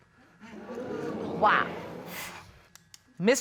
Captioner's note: audience gasping